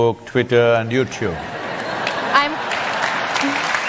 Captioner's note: laughter/Applause